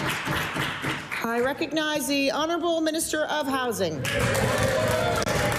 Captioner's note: applause